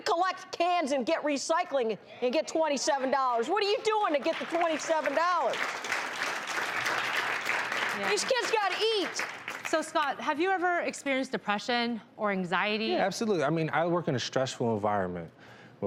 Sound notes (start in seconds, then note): 5.2 audience claps